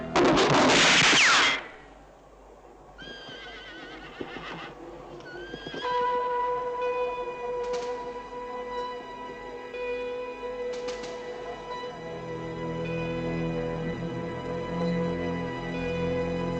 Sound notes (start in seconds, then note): 0.1 bullet ricochets; 3.0 horse whinnying; 6.0 eerie suspense music